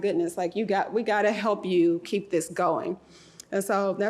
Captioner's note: none